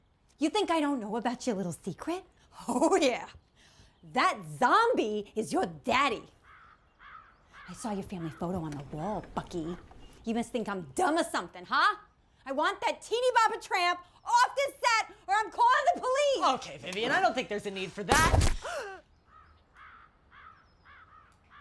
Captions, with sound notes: You think I don't know about your little secret? Oh, yeah. That zombie is your daddy. I saw your family photo on the wall, Bucky. You must think I'm dumb or something, huh? I want that teeny bopper tramp off the set, or I'm calling the police. Okay, Vivien, I don't think there's a need for that. -(TRANQUILIZER GUN WHIRRING) -(VIVIEN GASPS)